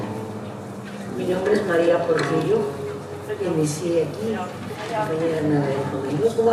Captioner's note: speaking in foreign language